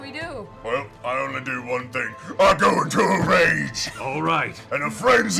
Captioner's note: yelling